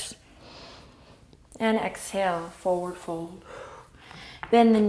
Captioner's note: inhale; exhale